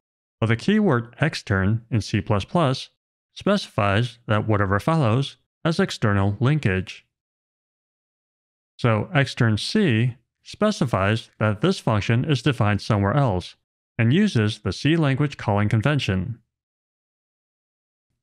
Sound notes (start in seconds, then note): none